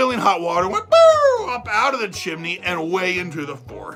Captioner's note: high pitch sound